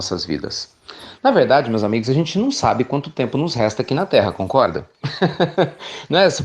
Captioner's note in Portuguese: Risos